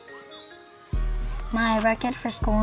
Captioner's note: whistle blows